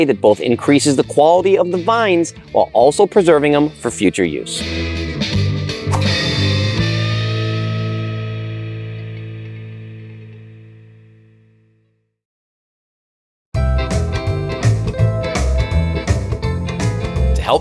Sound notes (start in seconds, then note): 5.6 upbeat music; 5.9 text whooshing; 13.6 bright cheerful music